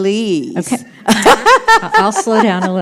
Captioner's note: laughs